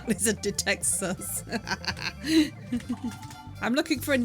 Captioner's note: laughing